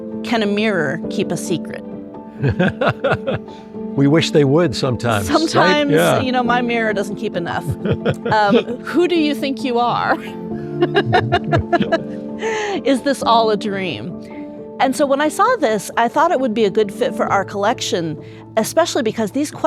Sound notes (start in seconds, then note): 2.4 laughs; 10.8 laughs